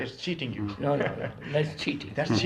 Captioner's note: laughs